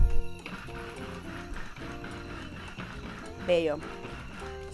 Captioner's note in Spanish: pulseo de procesador